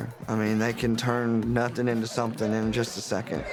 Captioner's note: none